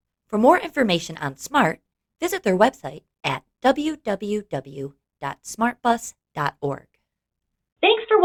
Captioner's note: voiceover